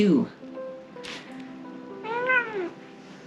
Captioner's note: meow